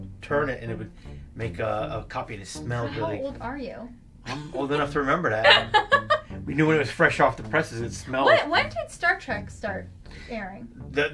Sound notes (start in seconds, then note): 5.4 laughs